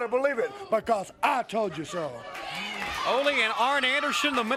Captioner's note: crowd cheering